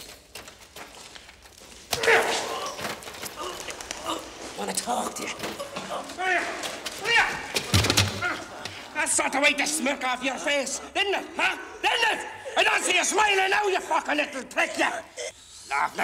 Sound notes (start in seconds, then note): 1.9 groaning